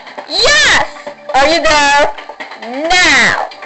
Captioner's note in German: none